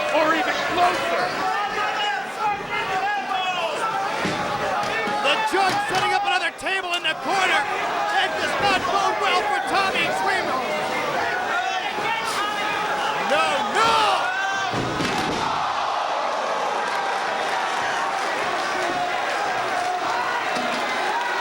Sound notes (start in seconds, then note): 1.8 crowd chattering; 14.7 table crashing; 17.2 crowd clapping